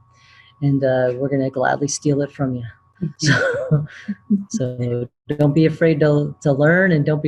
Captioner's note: laughter